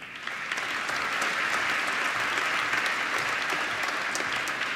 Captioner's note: applause